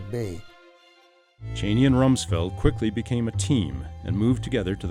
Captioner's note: voiceover